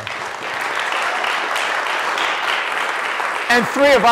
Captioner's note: applause